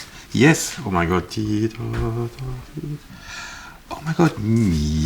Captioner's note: humming